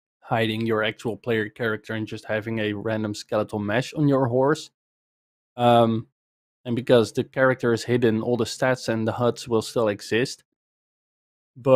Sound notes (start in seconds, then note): none